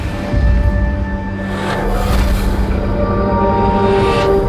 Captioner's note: sounds of rumbling and heartbeat as the void envelopes him